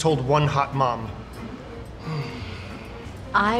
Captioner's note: sighs